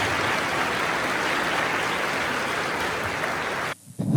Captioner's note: applause